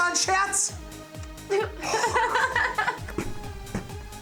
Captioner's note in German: weint